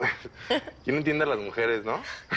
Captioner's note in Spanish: Risas